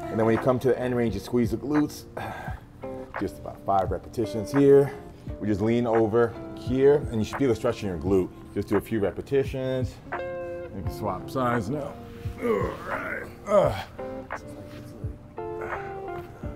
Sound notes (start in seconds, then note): 2.2 straining, huffing; 12.2 straining